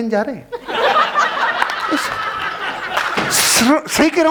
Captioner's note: laughing